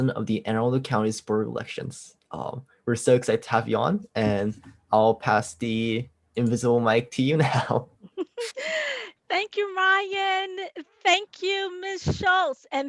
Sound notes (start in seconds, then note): 8.0 laughing